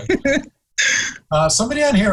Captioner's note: laughing